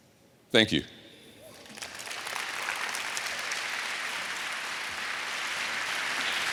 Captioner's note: applause